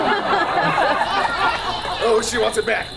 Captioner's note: audience laughs; child yelling indistinctly